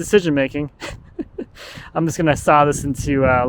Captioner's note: chuckling